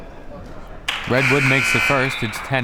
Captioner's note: buzzer